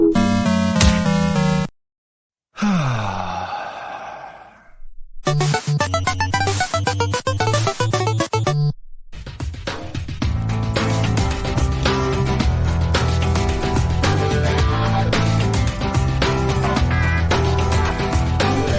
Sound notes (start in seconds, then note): 2.5 sighs in frustration